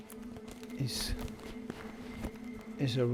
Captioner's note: plastic crackling